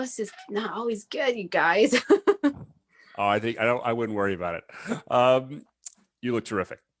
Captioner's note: chuckles